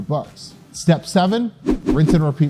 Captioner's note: text whooshing